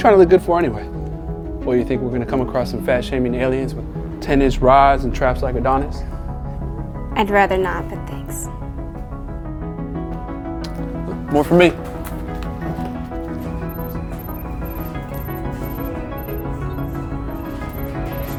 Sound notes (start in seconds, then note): 12.6 craft computers beeping